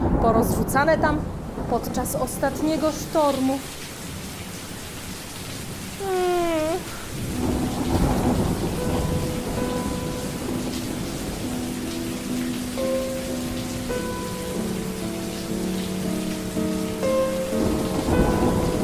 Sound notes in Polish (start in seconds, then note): 6.0 odgłosy burzy; 9.6 smutna muzyka